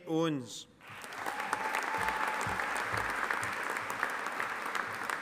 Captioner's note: audience applauding